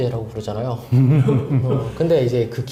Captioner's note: laughter